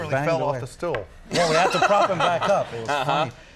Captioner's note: Conan laughs